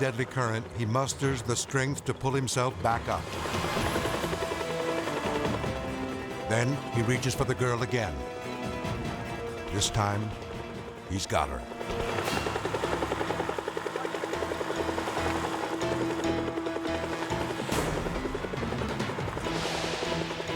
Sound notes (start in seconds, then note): 2.8 dramatic music; 2.8 helicopter whirring; 11.7 dramatic music; 11.7 helicopter whirring